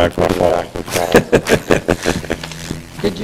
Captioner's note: laughter